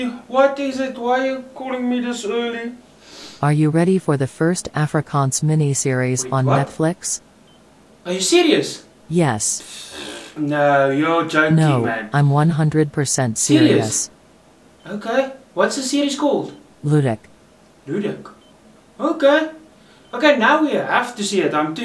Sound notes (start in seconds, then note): 3.9 robotic voice